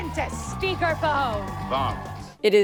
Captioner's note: audience cheering; upbeat music